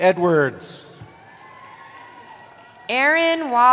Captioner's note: cheering